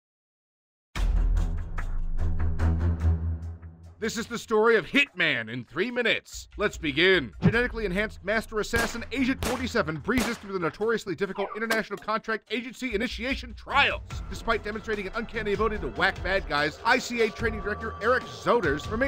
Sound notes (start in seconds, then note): 1.0 dramatic music; 10.1 gun shots